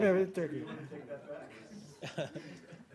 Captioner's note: laughter